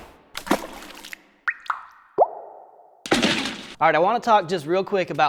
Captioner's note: sauce splatters and drips